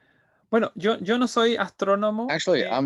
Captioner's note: speaking in Spanish